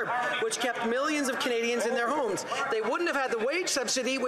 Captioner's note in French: voix de l'interprète